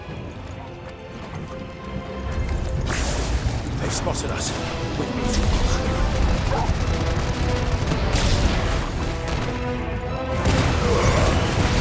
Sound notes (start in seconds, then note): 6.4 bark